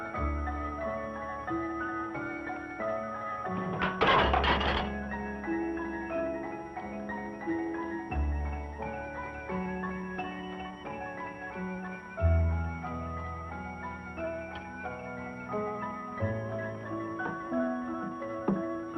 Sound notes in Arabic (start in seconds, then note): 3.4 قعقعة